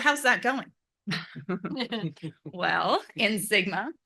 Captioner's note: laugh